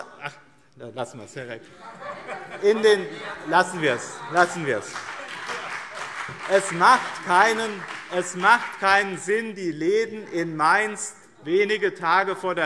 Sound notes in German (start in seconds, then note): 2.1 Beifall BÜNDNIS 90/DIE GRÜNEN